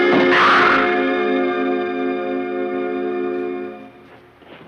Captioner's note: intruder groans